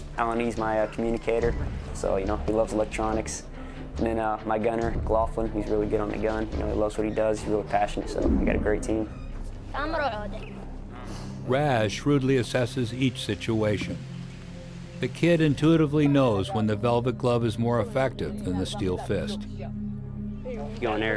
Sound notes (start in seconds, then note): 9.5 Boy speaking in Arabic; 11.6 voiceover